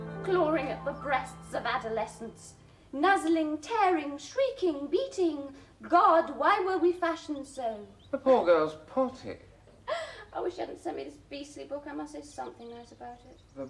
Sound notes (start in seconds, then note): 9.2 SOREL chuckles